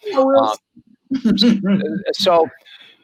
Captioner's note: giggles